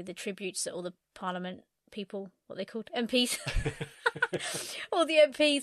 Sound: laughs

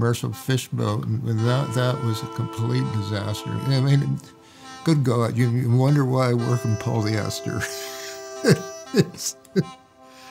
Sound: laughs

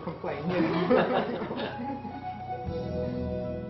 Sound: laughter

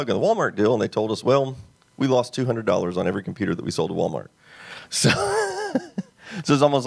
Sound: laughs

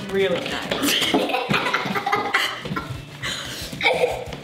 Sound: laughing

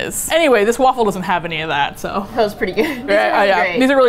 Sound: laughs

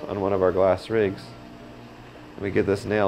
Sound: fire rumbling

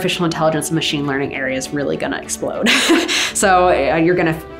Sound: laughs

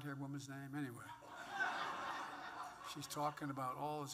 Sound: laughter

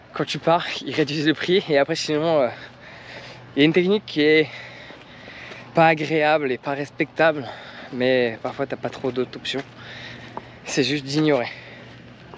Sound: speaking in foreign language

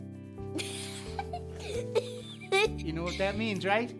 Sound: June giggling

